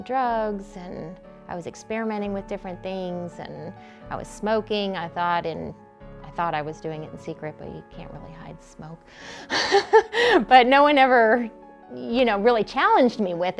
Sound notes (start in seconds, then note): 9.5 laughter